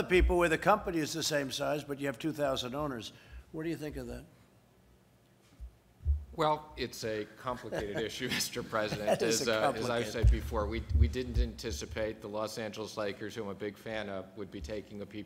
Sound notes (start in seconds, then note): 7.6 laughter